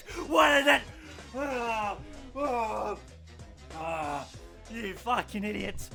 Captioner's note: sobbing continues